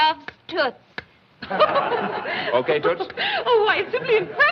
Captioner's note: woman Laughing